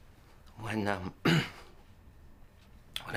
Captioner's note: clears thought